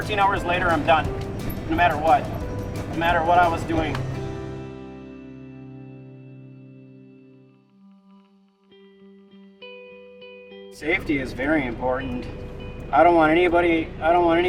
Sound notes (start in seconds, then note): 5.0 silence; 9.4 interlude music